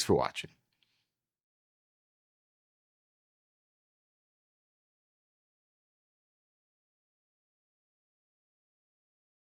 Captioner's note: silence